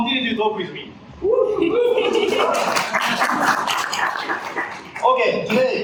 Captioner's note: audience applause